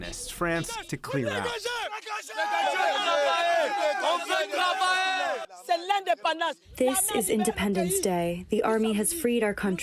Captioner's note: through translator